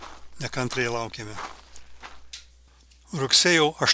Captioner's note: žygiavimo garsai tolsta